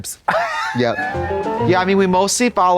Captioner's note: bright chime